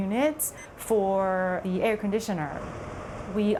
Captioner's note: buttons beeping